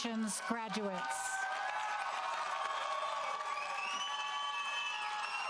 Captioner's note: audience cheering